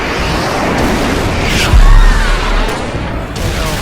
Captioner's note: crowed Screaming